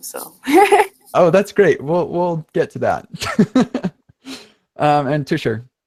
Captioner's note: laughing; laughing